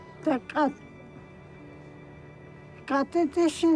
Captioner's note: speaks navajo